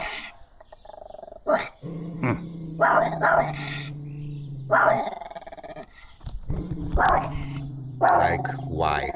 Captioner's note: dog barking